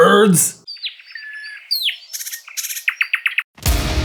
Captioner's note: lovely soothing bird chirps and songs